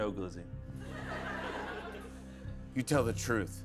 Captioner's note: laughter